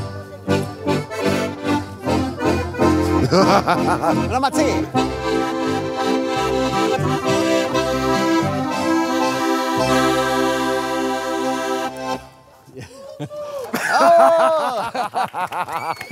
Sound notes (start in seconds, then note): 12.7 laughing; 12.9 cheers from audience